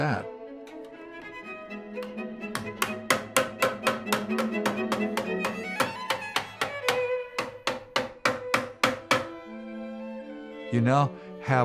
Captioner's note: hammering metal